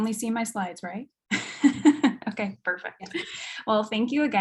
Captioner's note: chuckles